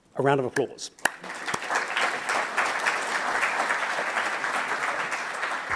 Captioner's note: audience applauds